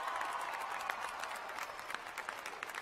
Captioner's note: cheers and applause